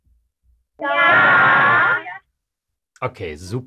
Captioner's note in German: viele Kinderstimmen